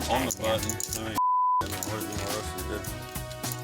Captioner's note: beep